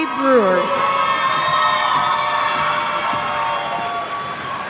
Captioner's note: cheers